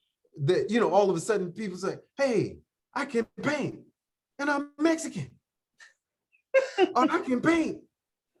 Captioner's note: laughter